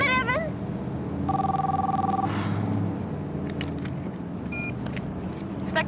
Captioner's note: phone ringing